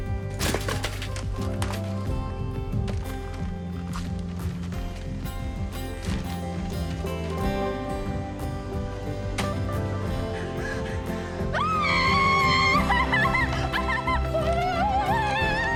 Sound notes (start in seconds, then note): 10.1 excitedly hyperventilating; 11.3 yells